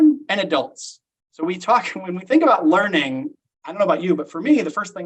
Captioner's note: chuckles